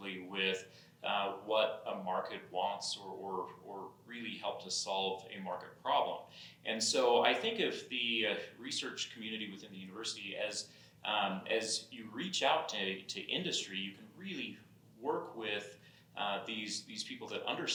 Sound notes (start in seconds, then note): none